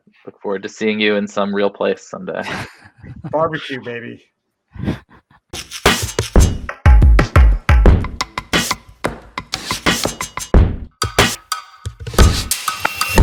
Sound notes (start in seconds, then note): 2.4 all laughing; 5.5 upbeat music ends